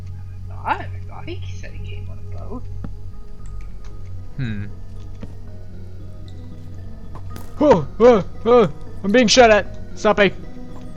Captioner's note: stompy